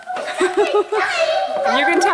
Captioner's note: laughs